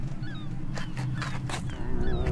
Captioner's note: gulls squawking; didgeridoo droning